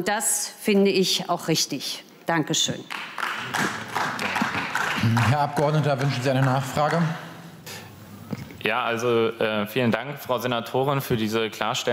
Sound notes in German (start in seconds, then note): 2.8 Beifall